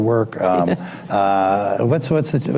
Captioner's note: laughs